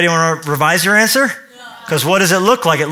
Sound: audience in unison

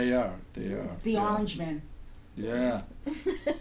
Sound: voiceover

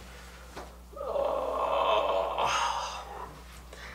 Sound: groaning

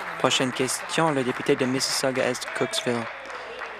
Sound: applause

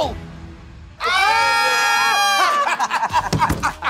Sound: laughing

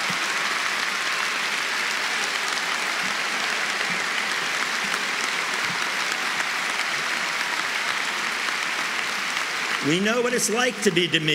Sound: cheering and applause

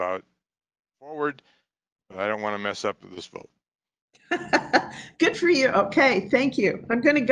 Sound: laughing

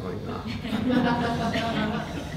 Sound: laughter

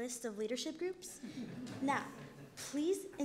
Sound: crowd laughs

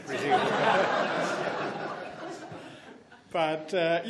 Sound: laughs

